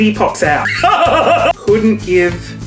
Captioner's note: laughs